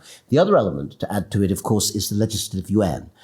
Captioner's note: none